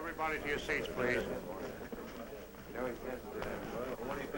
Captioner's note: chatter